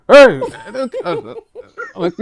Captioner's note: laughing